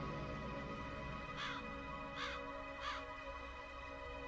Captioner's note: crow caws